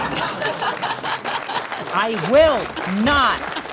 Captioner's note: audience laughing